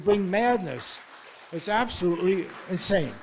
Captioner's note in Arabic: الجمهور يصفق